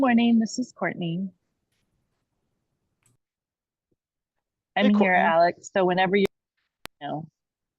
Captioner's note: audio cuts out briefly